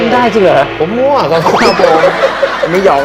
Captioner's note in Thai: เสียงหัวเราะ